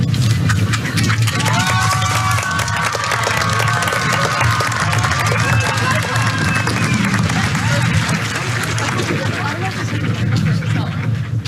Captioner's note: applause